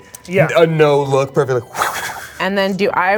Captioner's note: whooshing